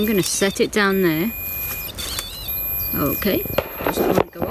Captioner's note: beeping